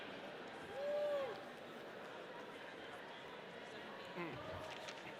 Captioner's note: audience cheering